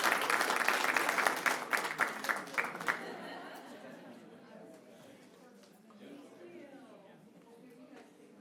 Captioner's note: applause